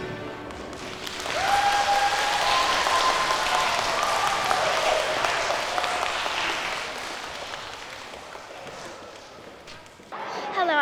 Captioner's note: applause